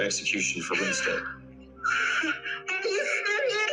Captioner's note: sobs